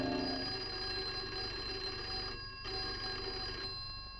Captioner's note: phone ringing